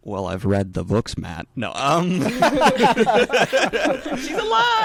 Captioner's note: all laughing